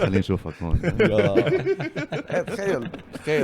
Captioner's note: laughs